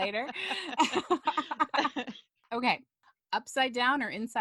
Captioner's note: laughter